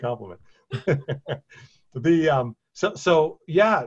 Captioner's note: both laugh